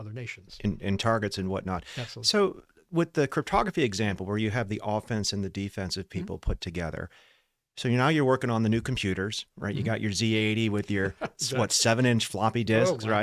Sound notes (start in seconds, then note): 10.8 laughs